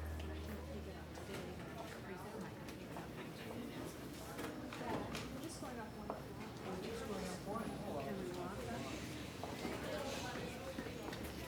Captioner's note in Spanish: bullicio del lugar